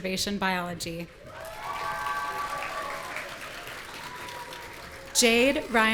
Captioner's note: audience cheering